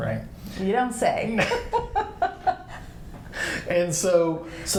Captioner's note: both laughing